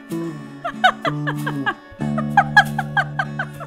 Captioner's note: giggle